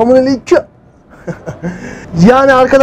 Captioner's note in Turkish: Gülüşme